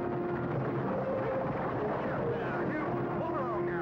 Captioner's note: man shouting